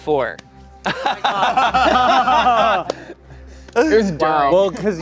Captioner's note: everyone laughing